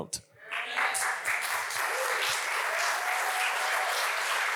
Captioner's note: audience applauds